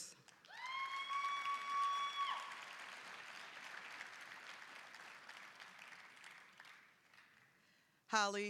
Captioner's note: applause, cheering